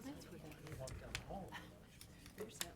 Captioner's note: speaks faintly